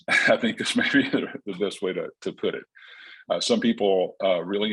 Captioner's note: chuckles